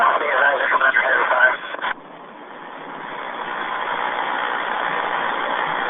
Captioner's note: helicopter engine roar